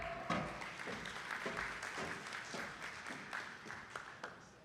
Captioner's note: attendees clapping